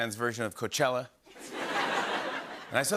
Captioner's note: laughter